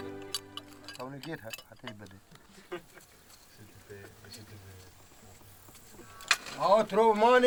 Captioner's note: spade scraping; archeologists chatting in foreign language